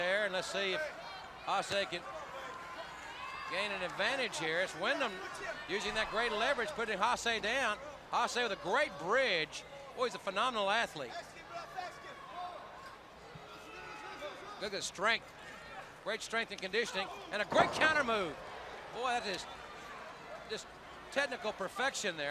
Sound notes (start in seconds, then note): 12.0 crowd chatter